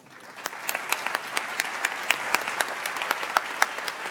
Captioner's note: audience applauds